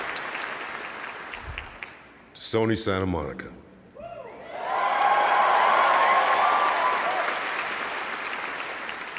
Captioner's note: cheers and applause